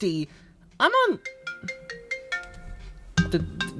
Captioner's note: phone rings